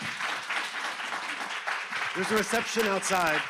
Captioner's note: audience applauds